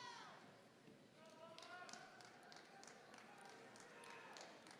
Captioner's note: clapping